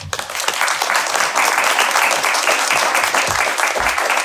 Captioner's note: audience applauding